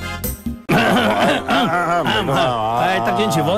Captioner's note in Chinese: 咳咳咳